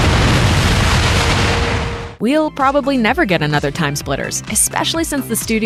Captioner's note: explosion